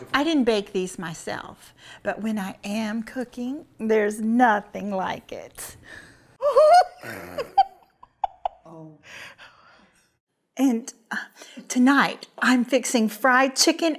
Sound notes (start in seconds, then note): 6.4 giggling